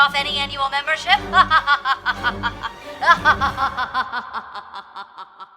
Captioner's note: operator maniacal laughing